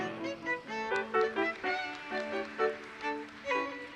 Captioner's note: audience applauses